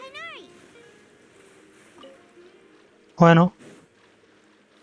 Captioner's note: water splashing